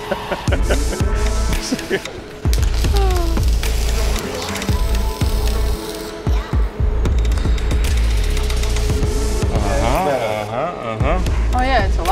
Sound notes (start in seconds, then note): 0.0 laughing; 1.8 upbeat music; 2.4 welding noise